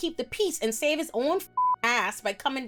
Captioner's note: beep